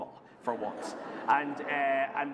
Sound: laughter

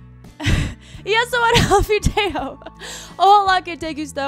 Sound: laughs

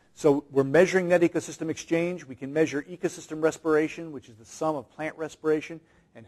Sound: none

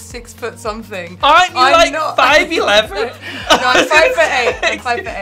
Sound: Alexa laughing

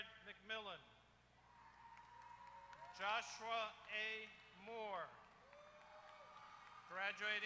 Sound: applause

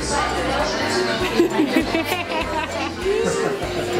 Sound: laughing

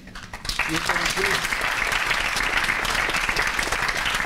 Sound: applause

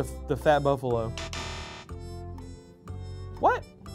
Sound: buzzer

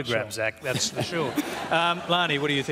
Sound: laughter

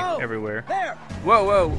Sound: shouting

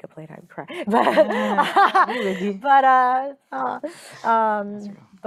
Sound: laughing

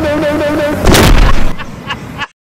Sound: thwack

